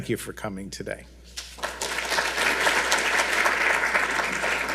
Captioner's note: audience applauds